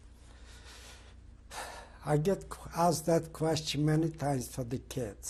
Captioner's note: sighs